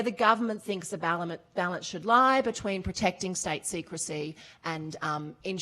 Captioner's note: none